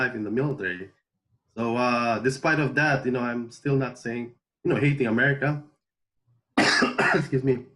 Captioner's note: coughs